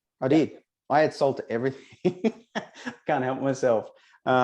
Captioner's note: laughs